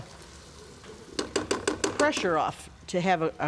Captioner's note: tapping